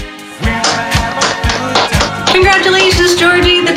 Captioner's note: applause